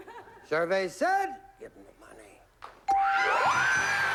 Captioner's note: whispering